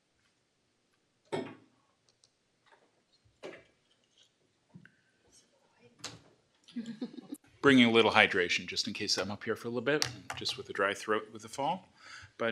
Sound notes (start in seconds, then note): 1.4 bangs; 6.7 laughs